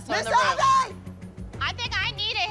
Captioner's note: shouting